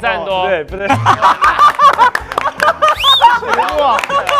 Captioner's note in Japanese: 全員爆笑